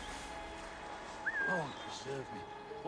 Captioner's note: whistle